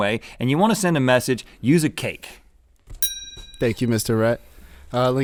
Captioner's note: bell ding